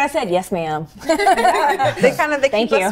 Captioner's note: all laugh